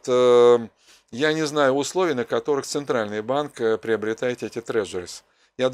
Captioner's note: Russian